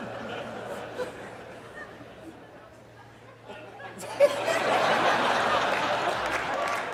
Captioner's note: خنده و شادی